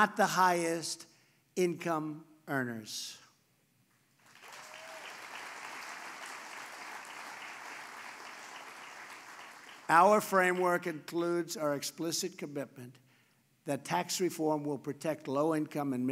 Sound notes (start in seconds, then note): 4.1 applause